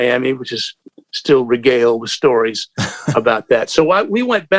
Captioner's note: laughter